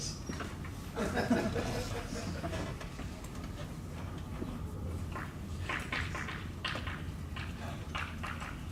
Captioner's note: students laugh